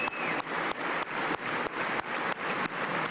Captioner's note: applause